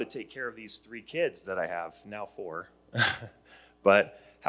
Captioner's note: chuckles